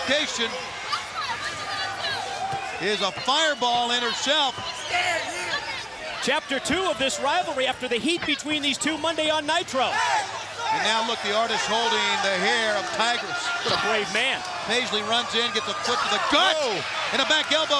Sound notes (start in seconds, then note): 6.6 crowd chatter